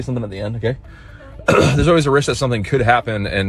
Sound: clears throat

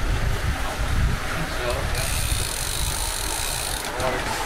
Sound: wind blowing

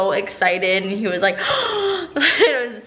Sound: gasping

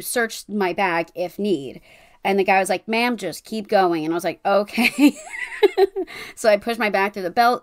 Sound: laughing

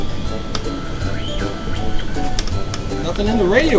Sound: radio static

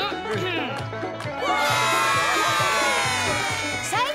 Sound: cheering

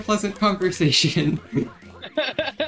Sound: laughs

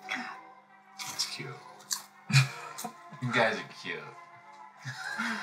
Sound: Mike laughs; Val chuckles

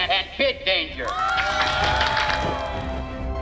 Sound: cheering

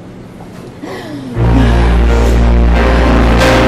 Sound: gasps

